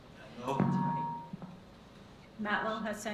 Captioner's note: microphone feedback